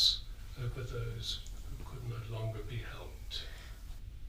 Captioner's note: none